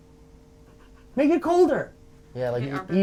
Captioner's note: man chuckling